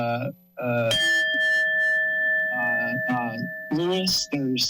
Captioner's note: bell rings